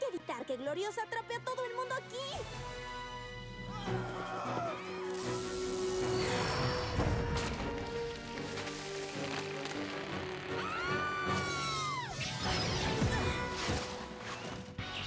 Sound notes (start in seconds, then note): 3.7 shouts; 10.5 screams; 12.4 zaps